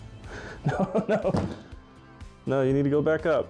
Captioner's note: laughs